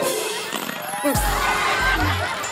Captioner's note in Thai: ผายลม